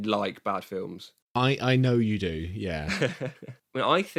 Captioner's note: laughs